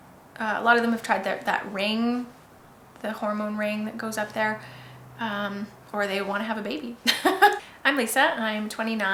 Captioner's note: laughs